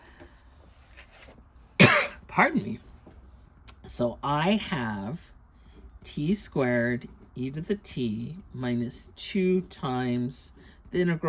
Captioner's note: coughs